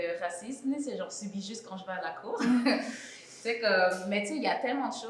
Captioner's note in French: rire sarcastique